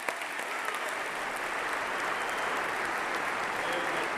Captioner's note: applause